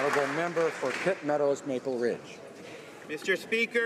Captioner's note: applause